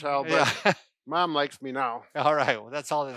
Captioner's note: laughs